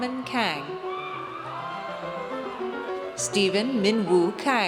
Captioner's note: audience cheers